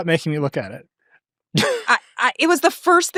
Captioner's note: chuckles